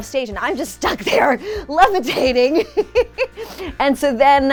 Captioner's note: laughs